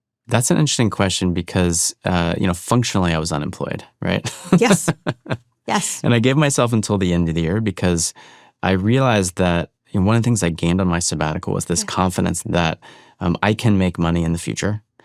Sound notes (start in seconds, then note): 4.0 laughs